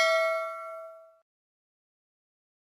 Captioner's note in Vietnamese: chuông